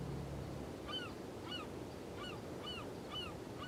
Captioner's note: birds cawing